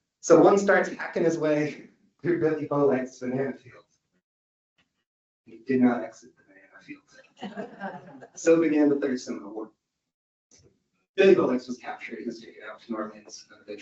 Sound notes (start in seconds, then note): 7.4 audience laughs